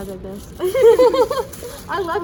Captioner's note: student 3 Laughs; 学生3 笑